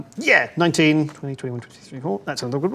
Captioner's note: none